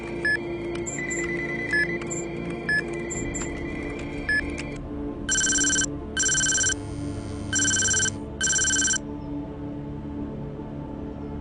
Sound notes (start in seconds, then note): 0.9 electronic beeping; 8.3 phone alerting